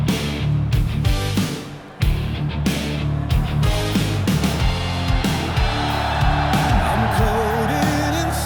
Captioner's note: applause